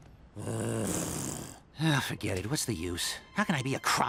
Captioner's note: sighs